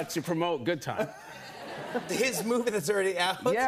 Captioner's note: laughter